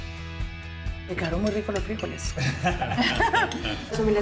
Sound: laughing

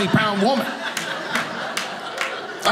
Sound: audience laughing

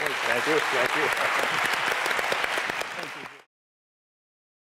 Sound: applause

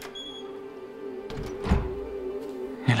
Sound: balcony door closing

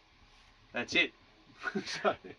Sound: laughs

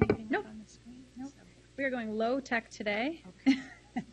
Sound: laughs loudly

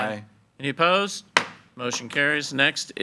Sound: gavel thuds

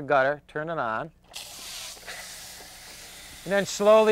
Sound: water hissing

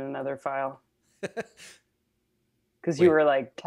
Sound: laughs

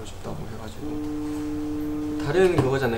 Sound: vibration

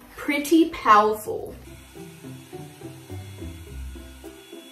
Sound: blow dry sound

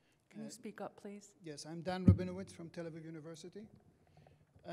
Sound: voiceover

